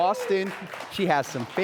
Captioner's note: audience cheering and applauding